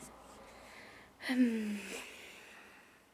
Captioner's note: sighs